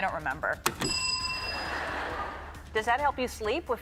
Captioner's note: crowd members laughing